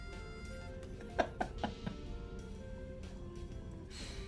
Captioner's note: laughing